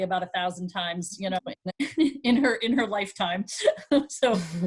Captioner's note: chuckling